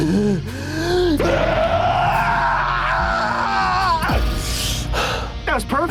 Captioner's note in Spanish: grito